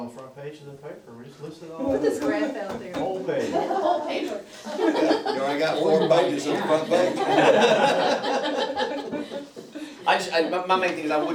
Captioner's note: laughter